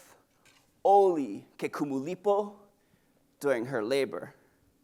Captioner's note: speaks in Hawaiian